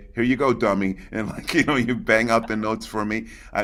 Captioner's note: chuckling; laughs